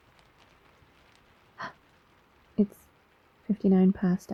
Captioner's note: small gasp